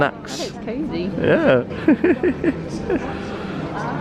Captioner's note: laughs